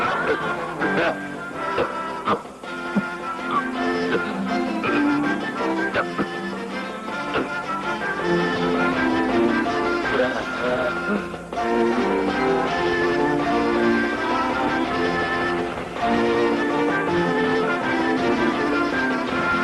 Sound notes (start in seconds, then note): 10.8 gasping